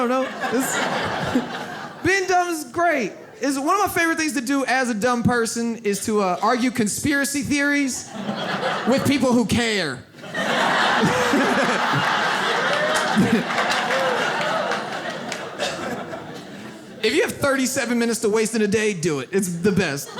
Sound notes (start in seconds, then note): 0.0 audience laughs; 10.1 audience laughs